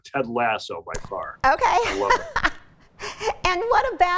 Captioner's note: laughs